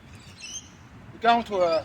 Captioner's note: birds chirping